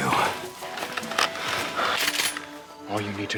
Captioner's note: shotgun clicks cocked